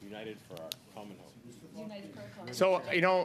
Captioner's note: mixed voices